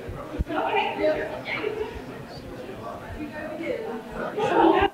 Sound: audience speaking indistinctly

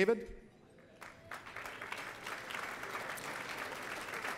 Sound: applause

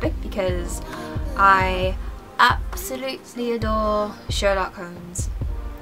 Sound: in cheesy British accent

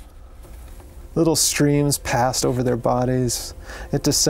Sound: voiceover

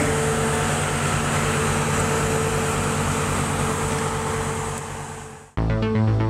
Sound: truck sounds

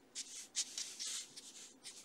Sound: scratching

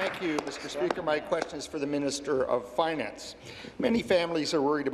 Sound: applause

